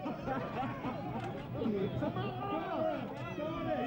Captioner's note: shouting